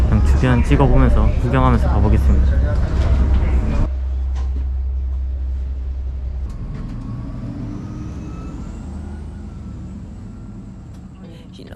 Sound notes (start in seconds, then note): 6.5 engine sound; 8.6 engine sound DOWN